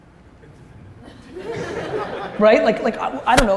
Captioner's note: audience laughter